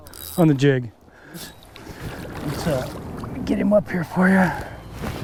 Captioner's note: fish splashing